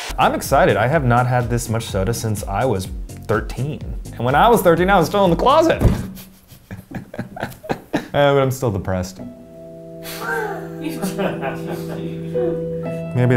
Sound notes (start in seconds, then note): 6.0 laughs; 9.2 somber music; 10.7 people off camera laugh